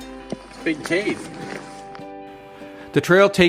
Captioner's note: footsteps crunching